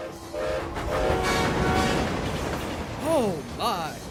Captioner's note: gilbert whistles and stafford honks horn